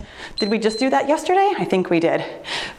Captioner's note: timer beeps